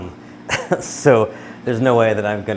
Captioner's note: chuckles